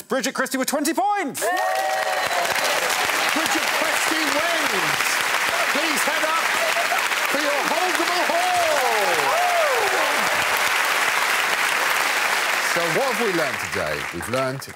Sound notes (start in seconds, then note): 3.9 cheers and applause; 11.0 cheers and applause